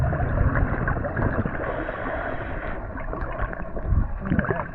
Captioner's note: water sloshing